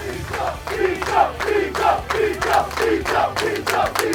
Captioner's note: crowd chants